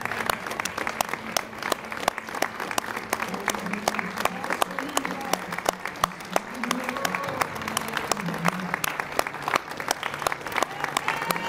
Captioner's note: applause